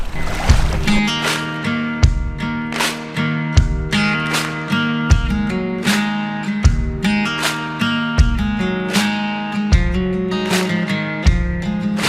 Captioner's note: applause